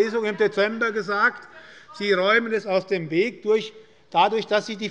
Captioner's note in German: Zuruf der Abg